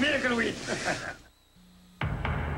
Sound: laughs

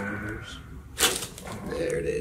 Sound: cracking

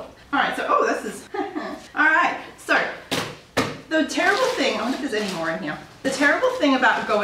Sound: laughs

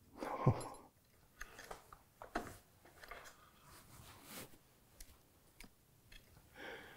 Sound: softer tapping and rattling

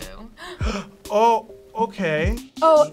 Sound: gasps

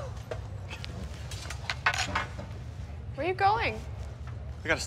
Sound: none

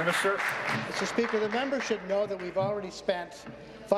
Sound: applause

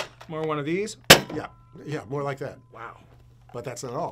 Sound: bang

